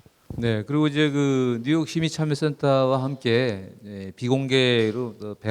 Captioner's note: speaking in foreign language